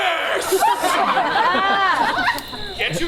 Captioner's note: audience laughs